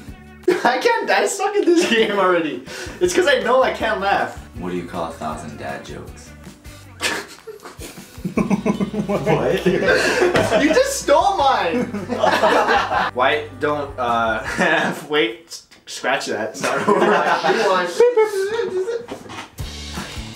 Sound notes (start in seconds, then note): 6.9 snickers